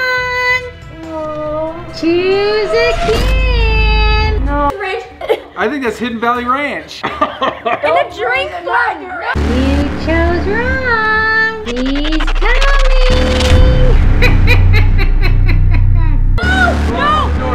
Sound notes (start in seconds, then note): 5.0 coughs; 7.2 coughs; 13.7 laughs